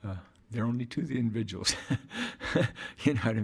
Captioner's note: laughing